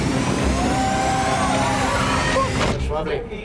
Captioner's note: crowd cheering